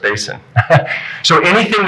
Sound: laughing

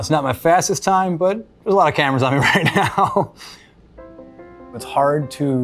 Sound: laughs

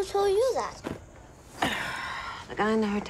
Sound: grunts

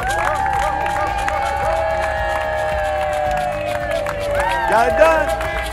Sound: loud cheering from community

